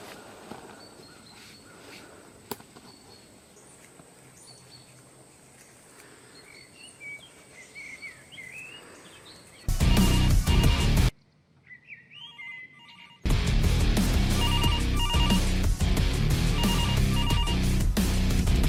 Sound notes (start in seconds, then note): 5.4 birds chirping; 9.7 heavy rock music; 9.8 phone ringing; 11.2 birds chirping; 12.7 phone ringing; 13.2 heavy rock music; 14.3 phone ringing